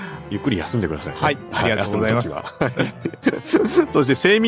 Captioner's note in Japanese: 笑い